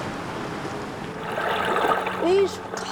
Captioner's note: whirlpool whizzing